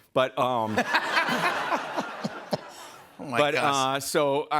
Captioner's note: laughter